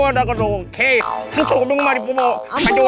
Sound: goes on a furious rant

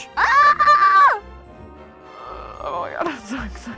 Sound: Kelsey squeals

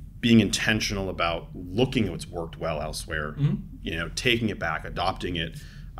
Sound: none

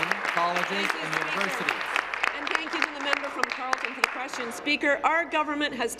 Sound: applause

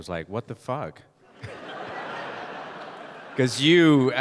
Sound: audience laughing

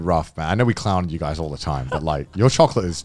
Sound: laughing

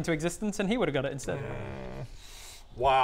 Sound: unwilling noises

